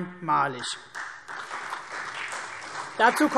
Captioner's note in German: Beifall CDU und vereinzelt BÜNDNIS 90/DIE GRÜNEN